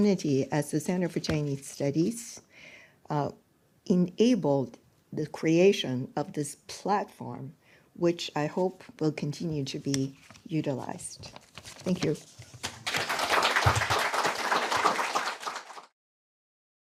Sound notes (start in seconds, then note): 12.6 applause